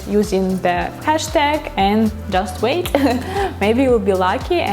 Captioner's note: laughs